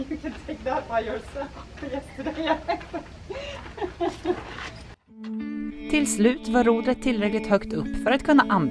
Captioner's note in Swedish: Skratt